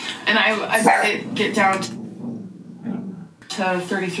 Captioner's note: dog barking